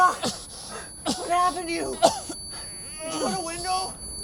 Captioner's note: Mark coughing